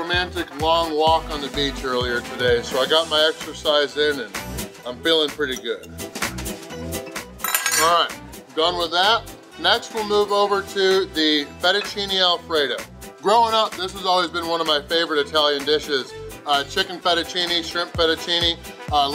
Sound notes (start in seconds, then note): 7.4 fork clinking